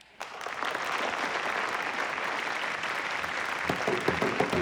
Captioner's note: people clapping